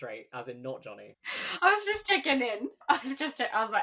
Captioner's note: laughing